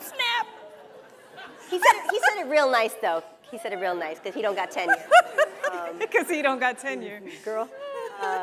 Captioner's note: laughs